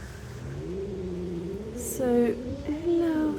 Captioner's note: cat growling